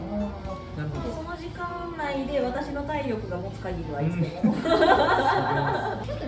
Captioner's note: laughs